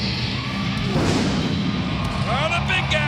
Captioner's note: fireworks booming